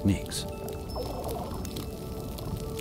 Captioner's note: fish burbling